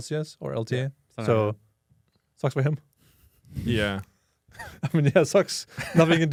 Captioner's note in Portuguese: risos